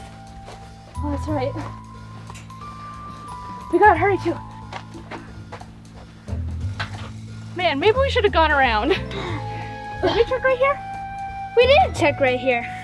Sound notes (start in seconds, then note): 5.3 footsteps